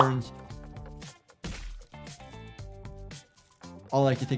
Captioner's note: liquid squelches